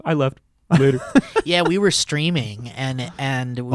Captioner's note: laughing